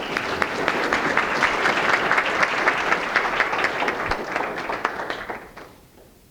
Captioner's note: applause